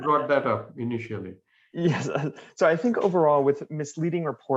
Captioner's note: laughter